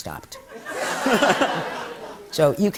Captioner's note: laughter